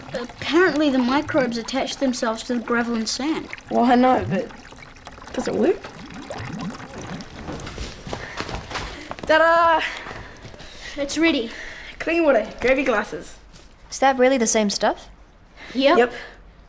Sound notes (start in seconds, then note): 3.0 water flows; 5.8 water flows; 7.3 running footsteps; 9.8 breathing heavily; 10.1 breathes heavily